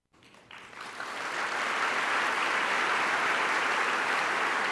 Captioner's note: applause